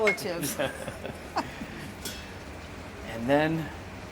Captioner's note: both laugh